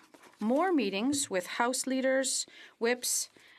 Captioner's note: speaking french